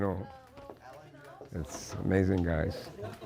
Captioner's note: laughter